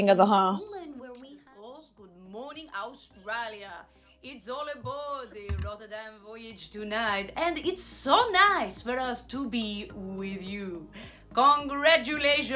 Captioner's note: Sketch audio plays